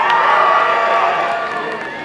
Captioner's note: applause and cheering